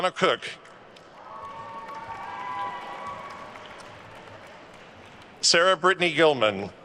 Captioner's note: attendees cheering and applauding